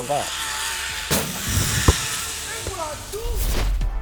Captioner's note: zip line screeching